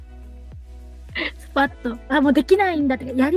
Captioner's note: laughs